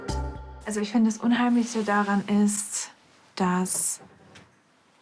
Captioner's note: speaks in German